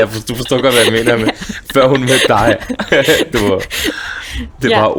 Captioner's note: laughs; still laughing